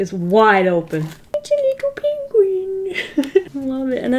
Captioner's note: giggles